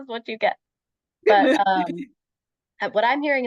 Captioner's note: laughter